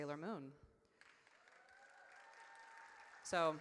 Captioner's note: audience cheers